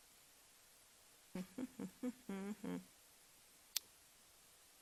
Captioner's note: hums